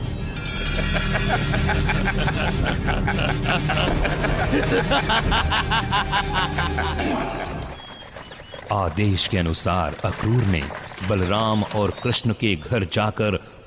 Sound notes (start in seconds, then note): 0.6 laughs